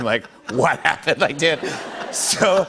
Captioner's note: laughter